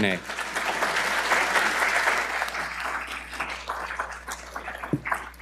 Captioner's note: audience applauding